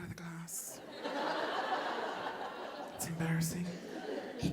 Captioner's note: audience laughing